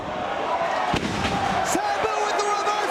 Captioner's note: spectators exclaiming